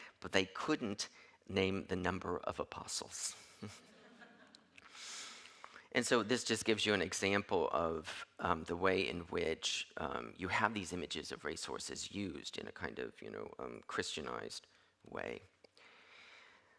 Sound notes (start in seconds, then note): 3.9 audience laughing